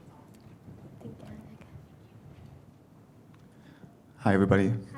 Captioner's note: faintly speaking